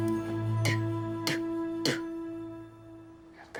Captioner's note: spits lightly